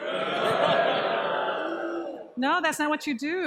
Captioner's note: booing